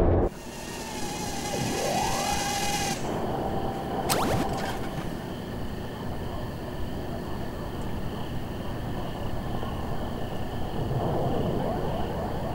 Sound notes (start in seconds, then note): 2.5 video game beeping; 9.5 crickets chirping